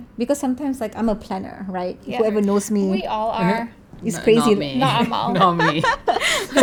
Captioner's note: laugh